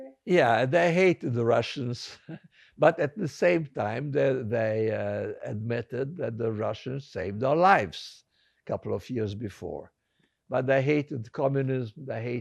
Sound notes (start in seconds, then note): 1.6 laughing